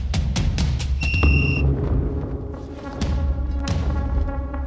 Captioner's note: whistle blows